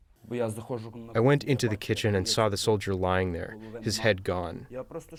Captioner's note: through translator